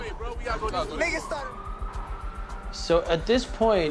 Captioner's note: siren wailing